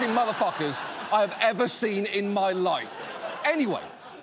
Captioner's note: audience laughing